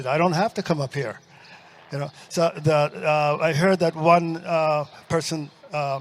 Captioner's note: audience laughs